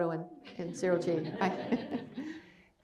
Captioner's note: laughter